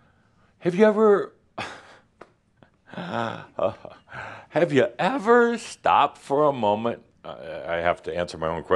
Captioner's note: Adamus chuckles slightly